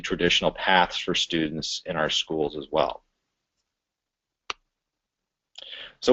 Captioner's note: pause